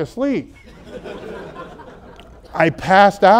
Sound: audience laughs

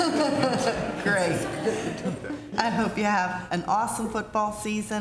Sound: laughter

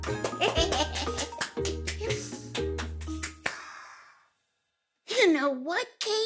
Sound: clapping; laughing

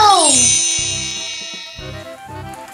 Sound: magic wand; upbeat music

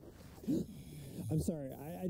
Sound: Jason gasps

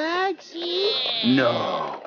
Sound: cartoon Voice

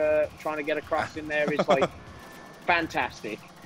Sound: laugh

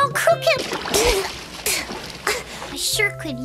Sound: spitting

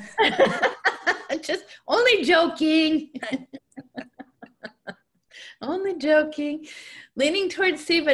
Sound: laughter

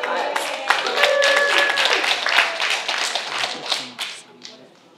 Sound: applause

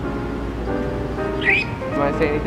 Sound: surprised chirp

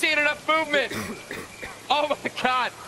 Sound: cough, cough, cough

